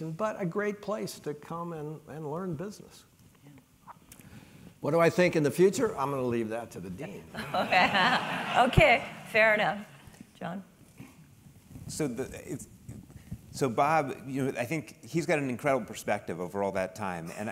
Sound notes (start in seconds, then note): 7.3 laugh